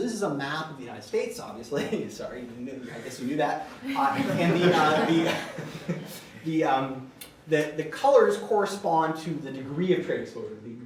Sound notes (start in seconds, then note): 3.8 laughter